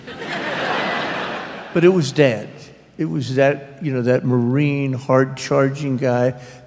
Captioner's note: laughter